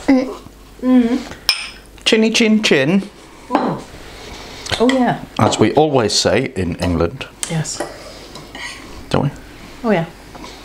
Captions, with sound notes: [ GLASSES CLINKING ] "Chinny-chin-chin!" "Oh yeah" "As we always say in England" "Yes" "Don't we?" "Oh yes"